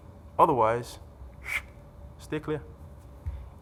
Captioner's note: makes swishing sound